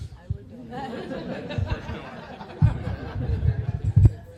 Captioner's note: laughter